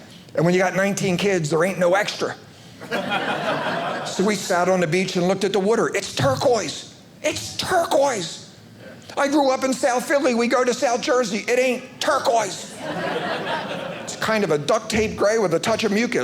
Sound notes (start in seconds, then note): 12.7 audience laughing